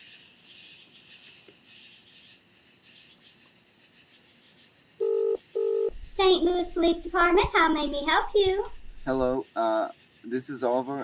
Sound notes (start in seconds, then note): 5.0 phone ringing